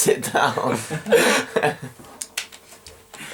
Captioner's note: Eric and Peter laugh